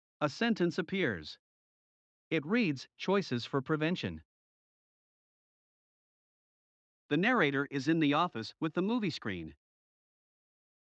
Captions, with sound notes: A sentence appears. It reads, "Choices for Prevention." [Voiceover] The narrator is in the office with the movie screen.